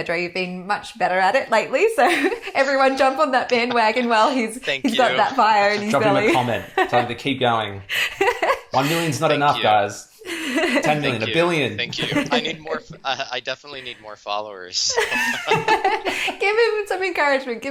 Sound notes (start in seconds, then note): 14.6 laughs